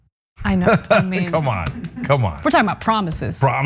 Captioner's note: laugh